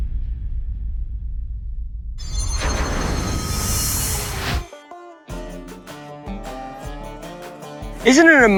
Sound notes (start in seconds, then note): 2.2 shimmering; 4.7 determined country music